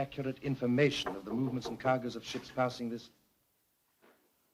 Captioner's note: knock at door